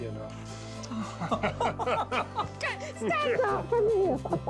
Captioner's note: laughs